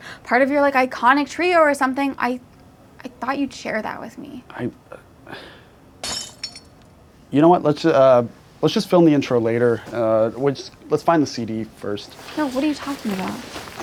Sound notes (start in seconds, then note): 6.0 shattering sound